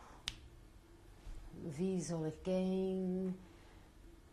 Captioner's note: non-english; singing